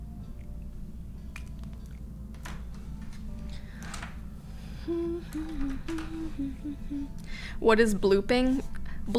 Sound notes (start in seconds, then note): 4.8 humming